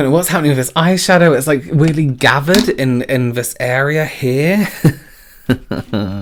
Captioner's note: laughs